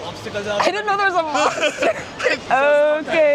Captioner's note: laughter